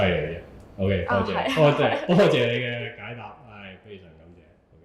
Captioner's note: laugh